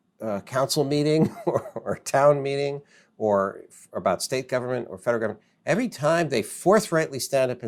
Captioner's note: laughs